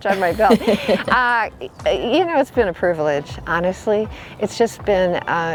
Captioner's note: laughs